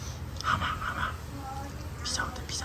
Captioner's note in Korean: 아빠의 속삭임